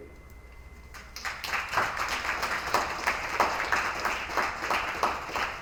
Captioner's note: attendees applauding